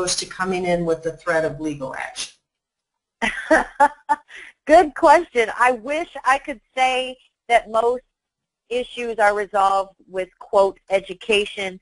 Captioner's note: laughs